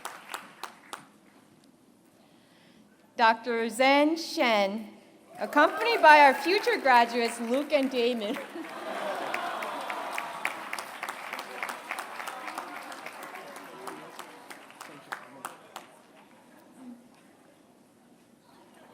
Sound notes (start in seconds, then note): 0.0 applause; 9.3 applause